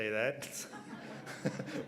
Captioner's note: laughter